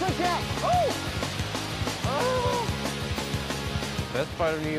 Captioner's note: groans